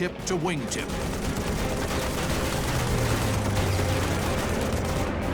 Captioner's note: gunfire